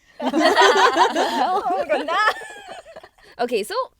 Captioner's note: girls laughing